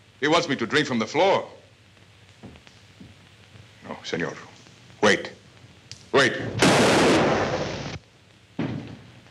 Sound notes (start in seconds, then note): 6.5 gun fires